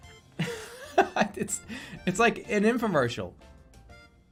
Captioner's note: laughing